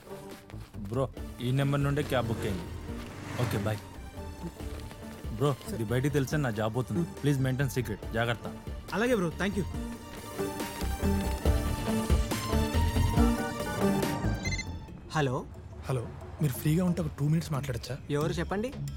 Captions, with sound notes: According to the details, on that day, a cab was booked from this number. Okay, bye! Please maintain secrecy, otherwise, I'll lose my job. Careful. Don't worry, thank you. (Phone rings) Hello... - Hello. If you are free, can I talk to you for 2 minutes? Who is this?